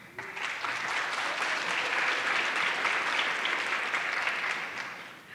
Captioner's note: audience clapping